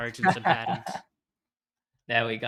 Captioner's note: laughs